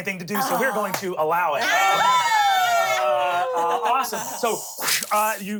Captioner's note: everyone cheers